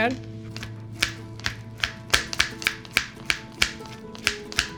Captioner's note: knife clacking